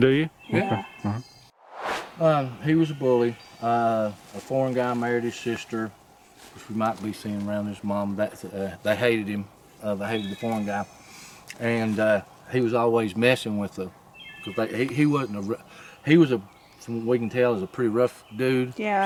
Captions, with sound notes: - Do you? - Yeah. [Swoosh] He was a bully. A foreign guy married his sister. Because we might be seeing around his mom. They hated him. They hated the foreign guy. And he was always messing with them. He wasn't a rough-, he was a-, from what we can tell, a pretty rough dude.